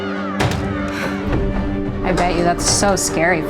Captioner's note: children laughing; door thuds